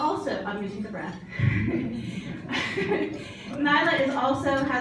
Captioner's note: chuckles